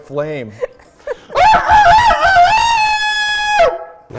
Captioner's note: crowing sounds